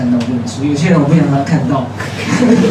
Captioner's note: laughs